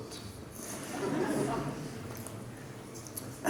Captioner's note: laughter